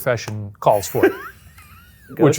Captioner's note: laughs